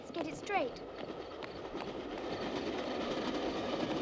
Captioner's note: train passing